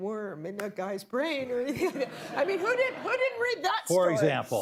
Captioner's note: laughter